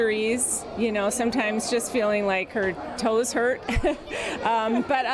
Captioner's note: chuckles